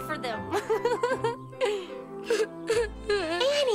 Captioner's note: annie's crying